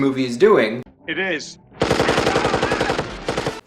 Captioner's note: rifle fire rapidly exploding